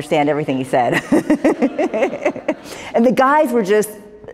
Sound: laughter

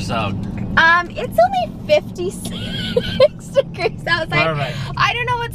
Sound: laughing

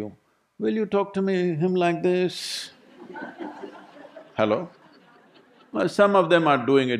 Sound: laughter

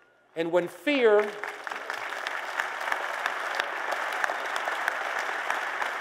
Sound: applause

